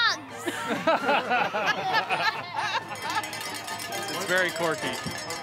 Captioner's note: laughing